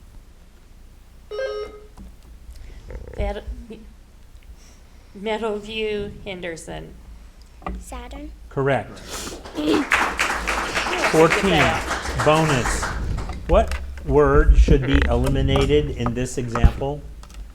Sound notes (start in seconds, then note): 1.3 buzzer ringing; 9.3 audience applauding